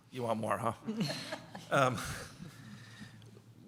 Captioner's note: laughter